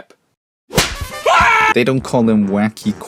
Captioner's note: slam